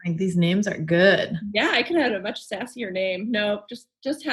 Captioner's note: murmurs